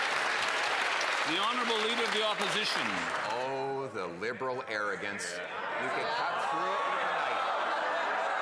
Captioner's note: applause